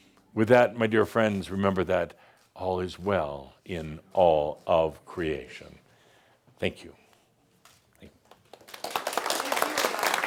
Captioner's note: audience applause